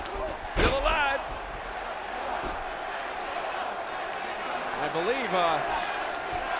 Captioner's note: applause